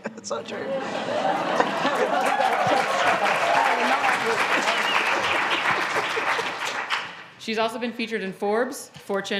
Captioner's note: applause